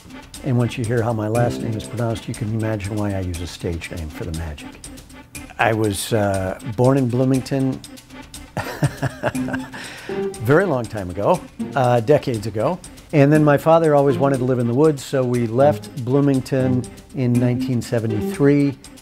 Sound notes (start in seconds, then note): 8.6 laughs